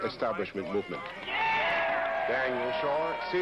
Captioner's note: cheers